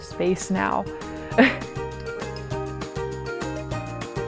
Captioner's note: chuckles; upbeat music continues